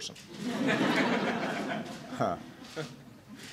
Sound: laughter

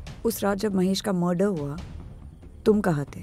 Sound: none

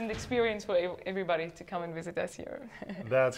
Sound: laughs

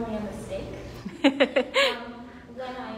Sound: laughs

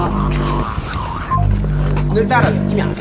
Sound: call end tone

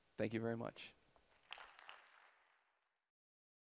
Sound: applause

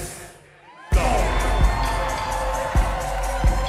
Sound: audience applauds

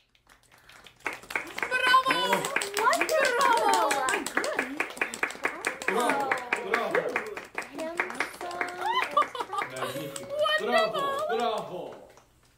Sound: applause and boisterous approval

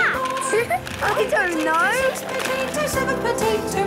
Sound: laughing

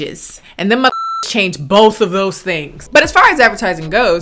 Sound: beep

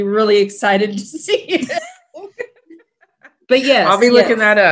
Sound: laughs

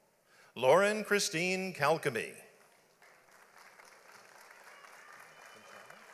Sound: audience applauds

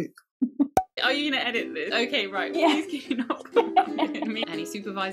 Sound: laugh

